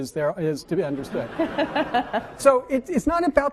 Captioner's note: laughing